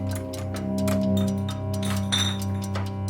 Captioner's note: bottles bang together